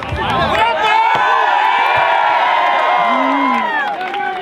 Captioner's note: crowd cheers